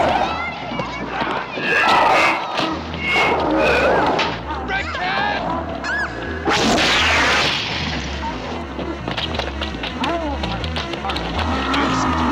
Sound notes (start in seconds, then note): 1.6 growling; 2.3 thudding; 6.4 zapping; 8.6 frenzied electronic music